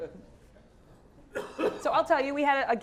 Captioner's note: laugh; cough